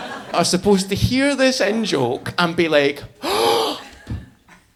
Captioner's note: audience laughing; gasping